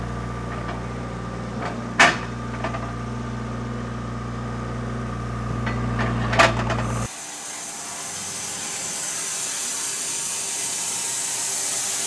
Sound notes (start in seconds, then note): 6.9 saw whirring